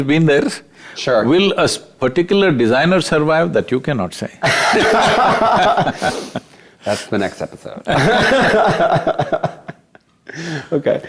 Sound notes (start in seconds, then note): 4.4 both Laugh; 7.0 laughs